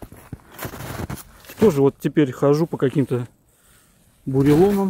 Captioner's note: snow crunching